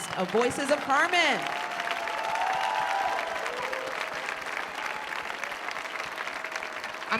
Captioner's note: applause